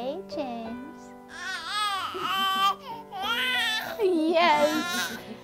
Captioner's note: baby noises